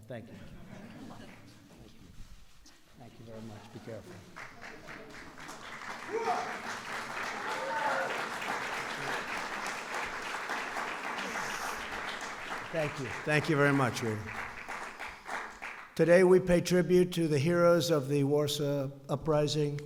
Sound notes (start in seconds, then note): 0.4 laughter; 6.9 applause